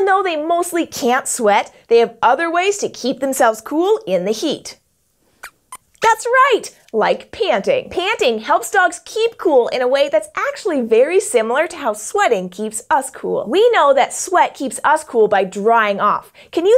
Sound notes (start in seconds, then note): 5.4 squeaks squeaks